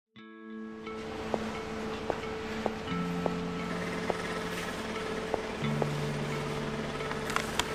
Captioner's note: sound of shoes